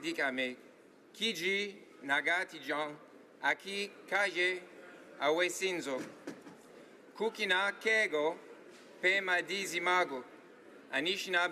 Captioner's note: speaking native language